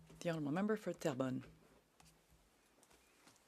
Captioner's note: speaking French